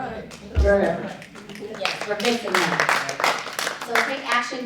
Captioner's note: audience applauding